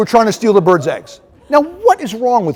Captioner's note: laughter